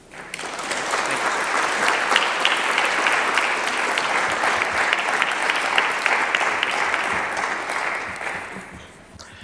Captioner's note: clapping